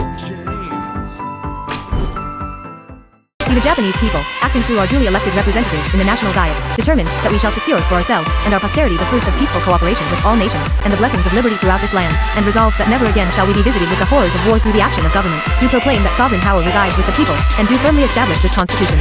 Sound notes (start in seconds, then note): none